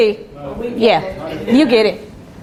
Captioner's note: students talking